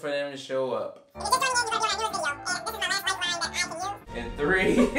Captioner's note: fast-speed tape playing